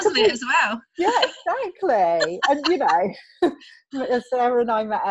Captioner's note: both laughing